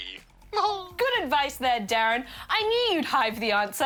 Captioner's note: laughs